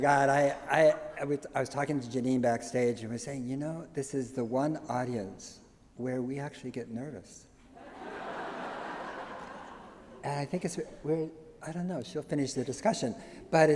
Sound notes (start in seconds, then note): 7.8 laughter